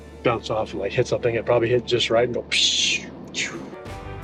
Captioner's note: imitates whooshing